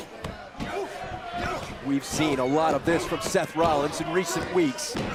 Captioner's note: crowd chatter